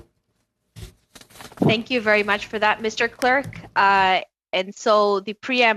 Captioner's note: speaking French